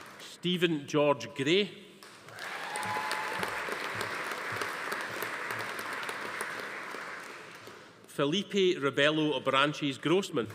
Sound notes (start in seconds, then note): 2.2 audience applauding; 2.3 attendees cheering